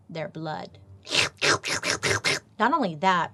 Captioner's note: slurps